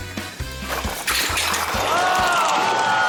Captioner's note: shot glasses clatter; audience exclaims